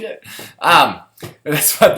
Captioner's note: laugh